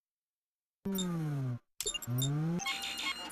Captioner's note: beeping